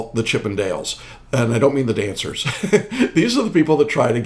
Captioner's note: chuckling